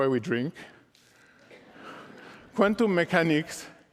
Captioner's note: laughter